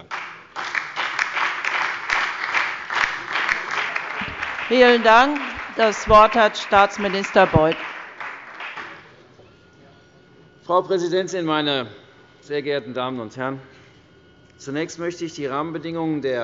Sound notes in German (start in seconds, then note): 2.5 Beifall bei der FDP, der SPD und der LINKEN